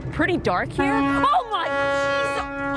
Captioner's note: ship horn blows